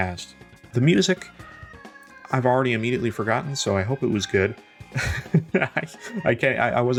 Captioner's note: laughs